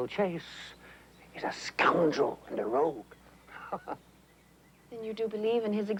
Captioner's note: laughs